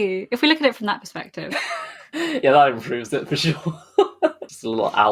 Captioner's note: laughing